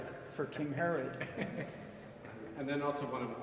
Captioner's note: chuckles